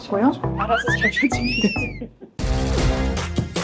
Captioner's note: witty sound effect; lively music